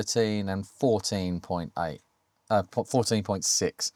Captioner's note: none